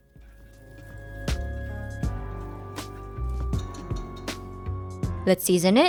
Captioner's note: chosticks thudding